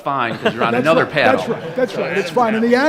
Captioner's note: audience laughs